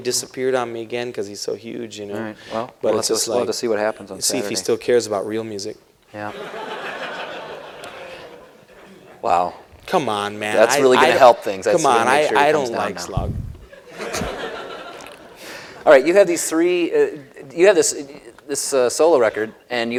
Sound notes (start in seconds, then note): 6.2 laughter; 13.5 laughing